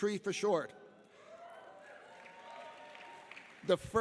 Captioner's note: audience applauding and cheering